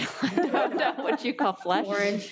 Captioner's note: all laughing